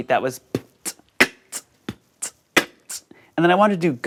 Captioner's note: beatboxing